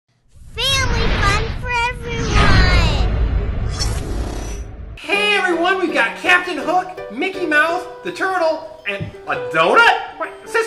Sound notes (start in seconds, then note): 0.2 female Child Voiceover